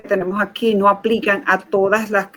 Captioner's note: speaking in Foreign Language